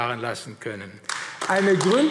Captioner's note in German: Beifall AfD